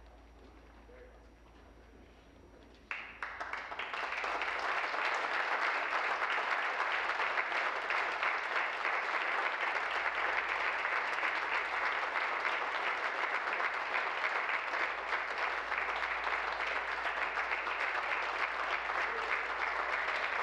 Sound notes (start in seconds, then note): 9.0 applause